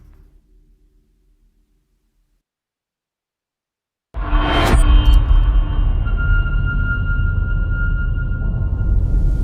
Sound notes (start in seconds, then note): 4.9 dramatic sound